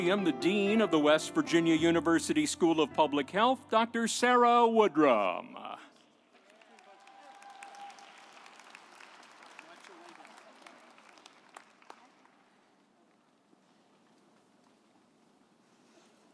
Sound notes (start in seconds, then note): 6.3 audience applauding